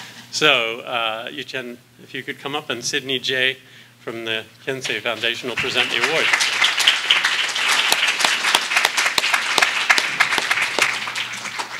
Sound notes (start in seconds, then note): 5.5 applause